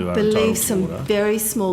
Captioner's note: mummers